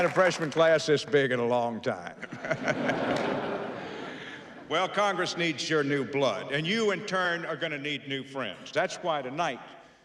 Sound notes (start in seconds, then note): 2.2 laughing